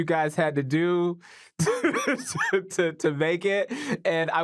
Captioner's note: laughs